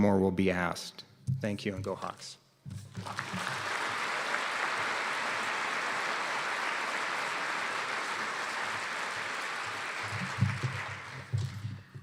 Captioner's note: applause